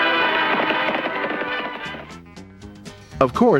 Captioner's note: horse galloping